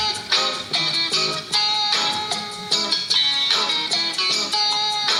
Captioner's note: none